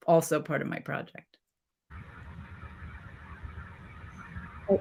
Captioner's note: silence